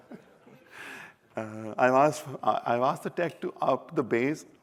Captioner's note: laughter